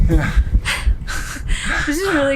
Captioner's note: laughing